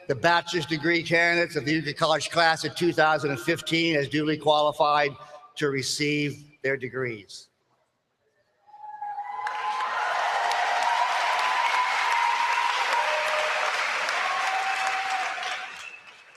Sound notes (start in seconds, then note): 9.2 applause